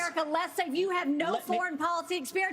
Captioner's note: cheering and applause